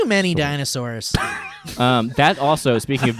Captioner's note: laughs